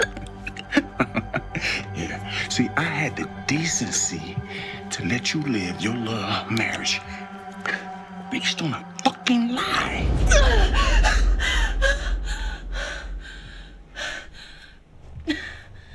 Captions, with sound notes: (laughs) Yeah, see, I had the decency to let you live your little marriage. Based on a fucking lie. (gasps)